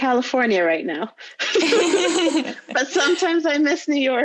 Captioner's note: laughing loudly